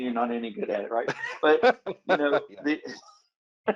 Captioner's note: laughs